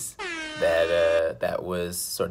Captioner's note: siren wailing